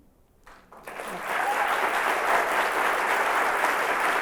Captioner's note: applause